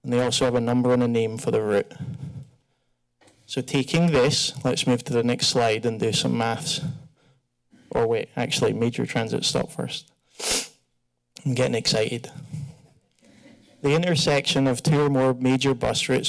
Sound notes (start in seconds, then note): 10.2 sniff